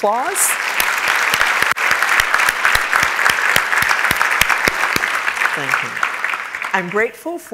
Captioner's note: applause